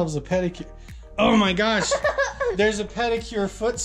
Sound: laughter

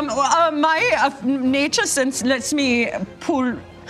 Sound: imitating German accent

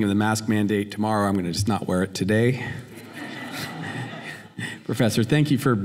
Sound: laughter

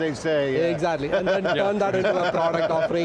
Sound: laughing

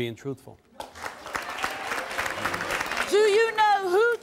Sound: audience clapping

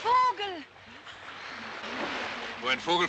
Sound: women exclaiming

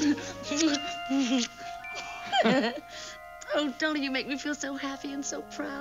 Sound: laughs

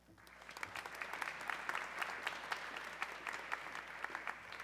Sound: audience clapping

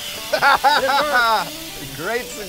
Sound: laughter

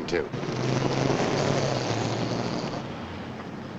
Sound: motor revs

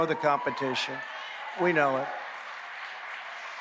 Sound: cheering and applause

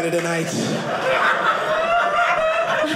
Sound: audience laughing

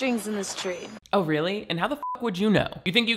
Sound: beep

